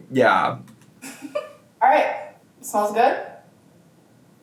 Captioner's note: giggles